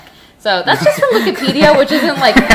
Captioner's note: laughing